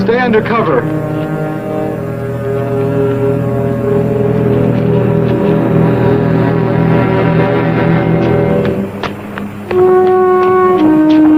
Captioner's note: city traffic